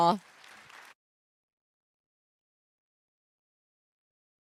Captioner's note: participants applauding